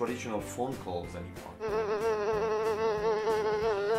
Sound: buzzing sound followed by crash

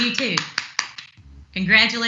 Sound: clapping

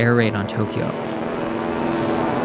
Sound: soundbite of archived recording

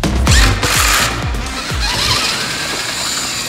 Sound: drilling

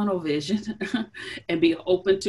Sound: chuckles

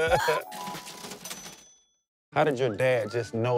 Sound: cha-ching!

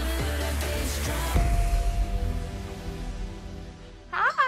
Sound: doorbell rings

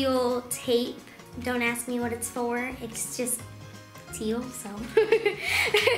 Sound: laughs

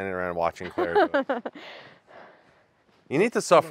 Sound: Claire laughing

